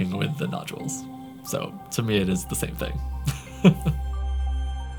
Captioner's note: laughs